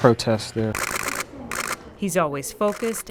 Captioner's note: camera shutter clicking